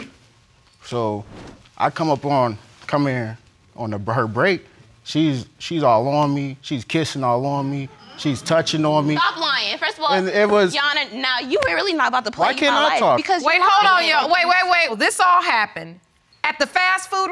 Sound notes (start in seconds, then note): 4.9 audience exclaiming